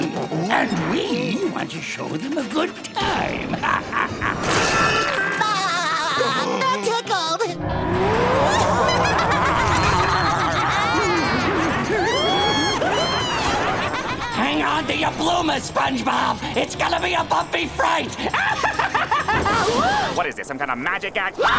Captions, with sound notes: and we want to show them a good time! [The Flying Dutchman laughs] [laughs] That tickled! [laughing] Hang on to your bloomers, SpongeBob! It's going to be a bumpy fright! [laughs] What is this? Some kind of magic act?